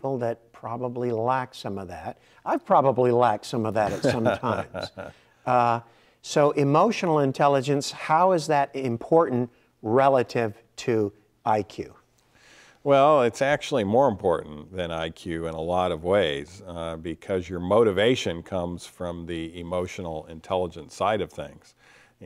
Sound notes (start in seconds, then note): 3.8 laughing